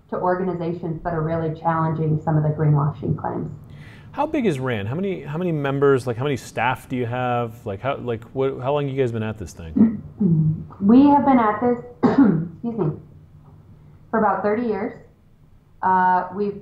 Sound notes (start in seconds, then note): 11.9 coughs